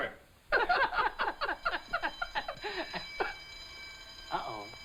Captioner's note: alarm ringing